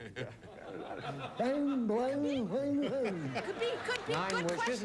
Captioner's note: mumbling